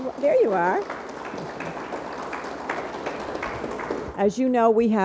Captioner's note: audience applauds